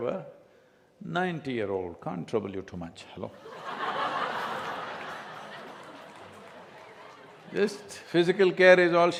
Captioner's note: laughter